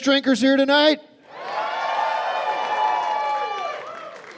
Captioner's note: cheering and applause